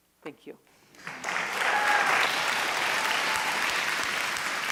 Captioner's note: applause